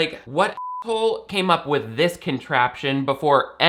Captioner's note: beep